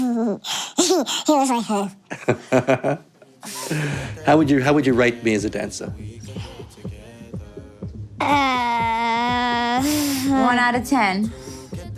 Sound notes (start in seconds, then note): 0.8 giggling; 2.2 interviewer laughs